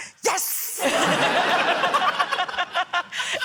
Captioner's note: laughter